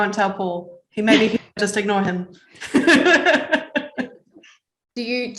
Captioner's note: laughs